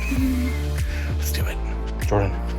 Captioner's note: laughs